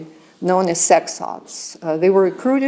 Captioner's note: non-english